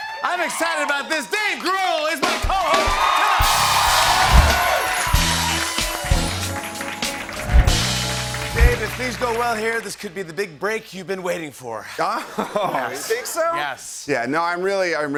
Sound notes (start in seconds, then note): 3.1 cheering and applause